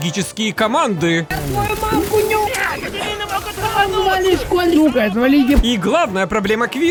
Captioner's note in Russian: Звуки доты